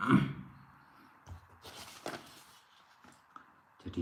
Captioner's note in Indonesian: berdehem